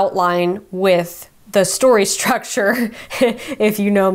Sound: laughs

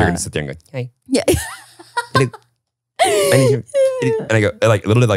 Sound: laughing

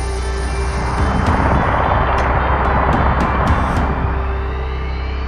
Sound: engine revving

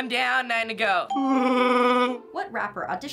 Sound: imitating Chewbacca

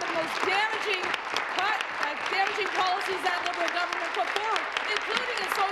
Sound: applause

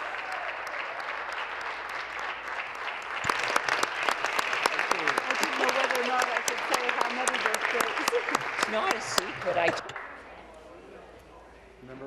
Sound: applause

